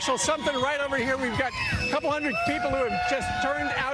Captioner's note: cheering